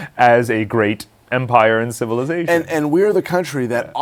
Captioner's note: laughs